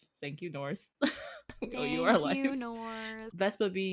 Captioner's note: laughs